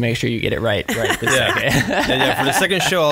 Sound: laughs

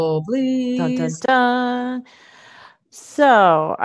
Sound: humming

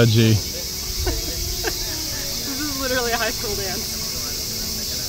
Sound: laughs

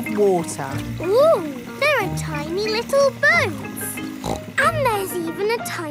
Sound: snorts

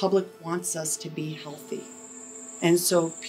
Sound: birds chirp

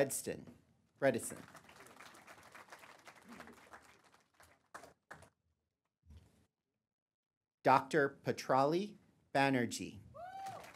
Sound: applause; applause

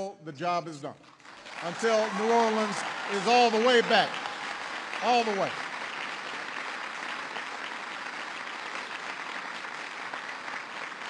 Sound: applause

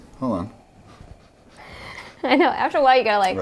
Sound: sniffing; laughing

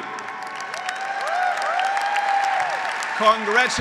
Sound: graduates applauding; graduates cheering

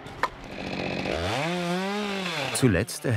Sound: chainsaw noises

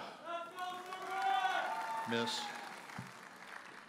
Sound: audience cheers and applauds

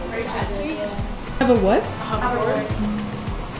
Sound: speaker trails off

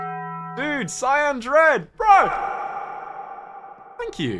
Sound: echoing

